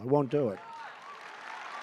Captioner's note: applause